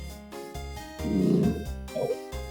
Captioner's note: growl